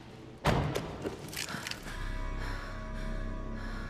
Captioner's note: breathing heavily